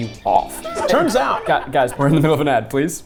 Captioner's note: laughing